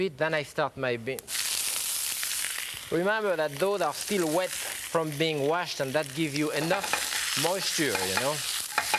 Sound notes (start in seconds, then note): 1.5 greens sizzling